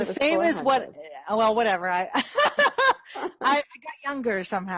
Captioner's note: laughs